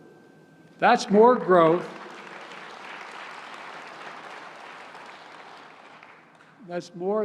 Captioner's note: applause